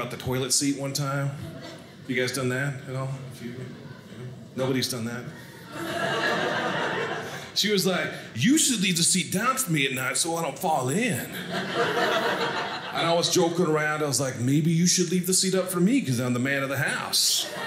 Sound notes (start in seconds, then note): 5.4 audience laughing; 11.2 audience laughing